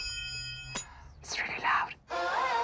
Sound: blinds opening; bell chiming

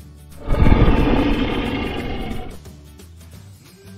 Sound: dinosaur roar

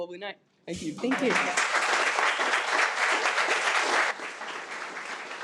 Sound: attendees applaud

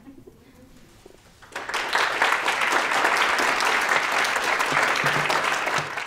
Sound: applause

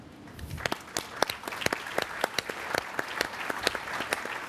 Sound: applause

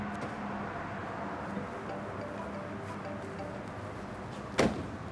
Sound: cellphone ringing

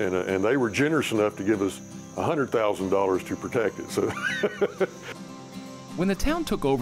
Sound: laughs

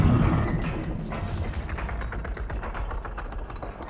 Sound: chain rattling, creaking

